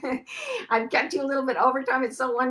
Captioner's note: laughs